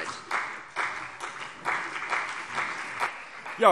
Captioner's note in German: Beifall CDU und BÜNDNIS 90/DIE GRÜNEN